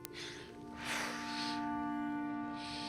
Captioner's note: Rygel sniffs